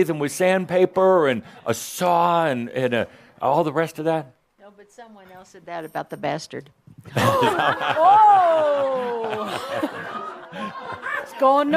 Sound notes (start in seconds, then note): 7.0 laughter